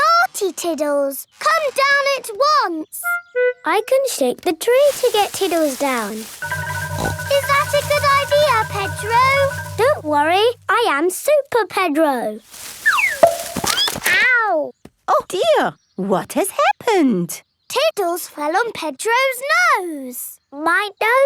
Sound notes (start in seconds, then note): 7.4 snorts; 13.4 thud; 21.0 nasal voice